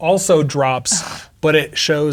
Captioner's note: scoffs